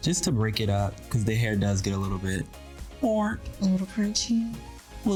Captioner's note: vocalizes